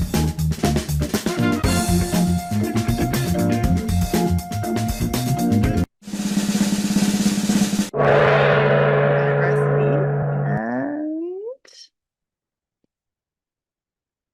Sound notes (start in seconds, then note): 6.2 drum roll; 7.9 gong